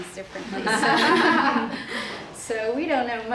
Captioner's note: participants laugh